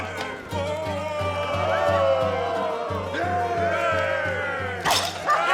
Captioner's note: patrons cheering; cup chatters; men cheering